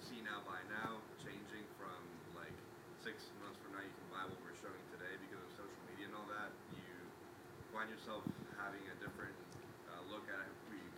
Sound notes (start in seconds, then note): none